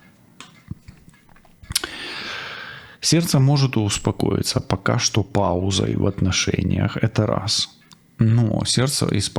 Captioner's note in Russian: откашливается; тяжело вздыхает